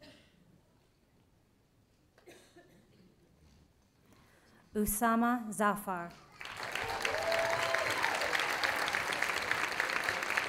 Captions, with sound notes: Usama Zafar. (audience applauding)